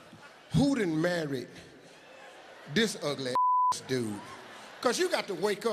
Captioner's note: beep